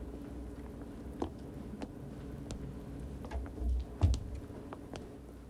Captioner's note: footsteps tapping